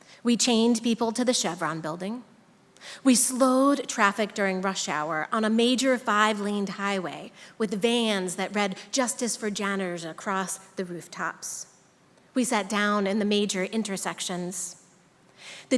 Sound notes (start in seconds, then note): none